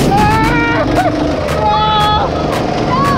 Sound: shouting

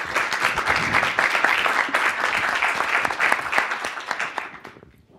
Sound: participant clapping

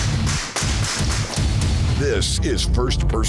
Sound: yelling; shooting; intense action music

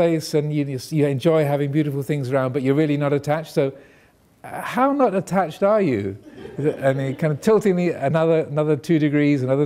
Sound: audience laughing

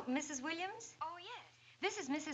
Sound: on phone

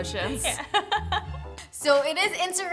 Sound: laughs

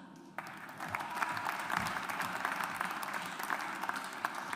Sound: audience applauds

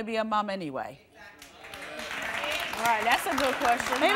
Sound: audience agreement

